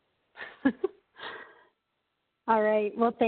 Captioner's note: chuckles